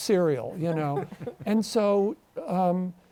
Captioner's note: both chuckle